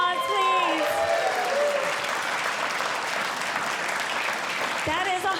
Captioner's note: audience Cheering